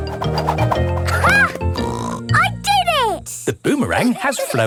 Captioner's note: snorts